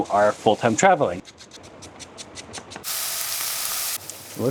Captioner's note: chopping, sizzling